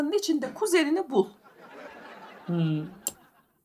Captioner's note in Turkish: Gülme efekti